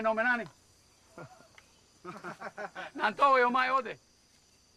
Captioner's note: laughing